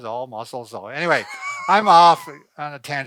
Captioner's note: laughs